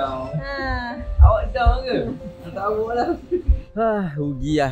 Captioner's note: laugh